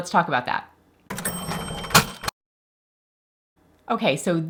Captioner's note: cash register rings